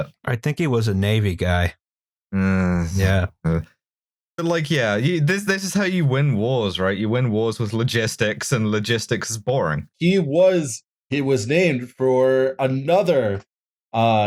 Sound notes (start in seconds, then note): 2.4 dissatisfied noise